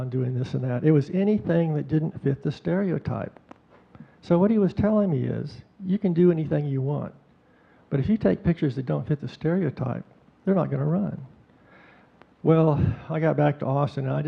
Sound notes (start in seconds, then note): none